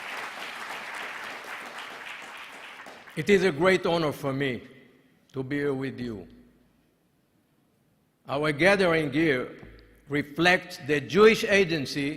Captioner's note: applause